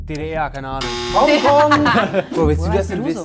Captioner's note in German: Gelächter